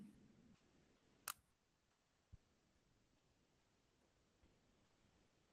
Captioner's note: camera shutter clicks